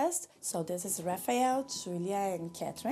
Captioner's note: none